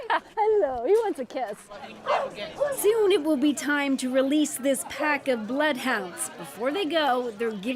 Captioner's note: laughter